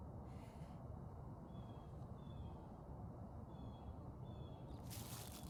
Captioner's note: breathing